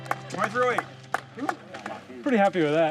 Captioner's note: applause